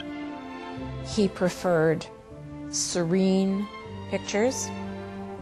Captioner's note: voiceover